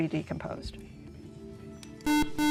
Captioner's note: beeping